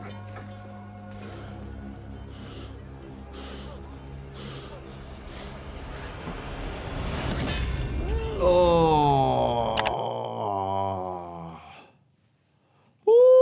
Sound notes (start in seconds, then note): 0.0 dramatic music; 1.3 man panting; 7.2 metal clanging